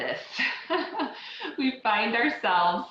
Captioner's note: laughs